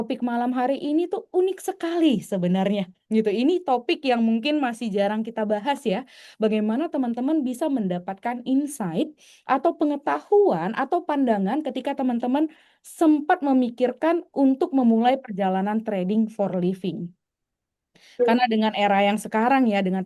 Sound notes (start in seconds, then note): none